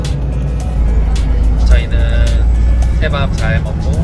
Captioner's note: bus door.. shaking